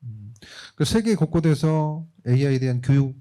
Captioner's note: speaking korean